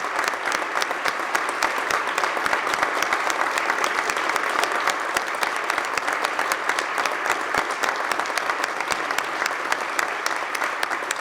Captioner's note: applause